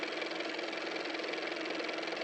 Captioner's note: car motor